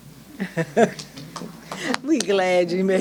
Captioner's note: laughing